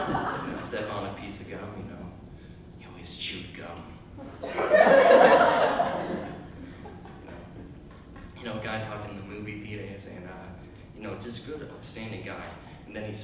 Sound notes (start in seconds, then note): 4.2 laughter